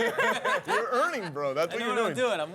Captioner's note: laughter